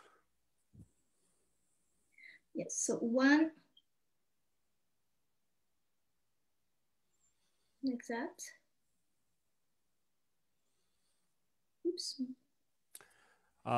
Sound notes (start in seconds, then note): none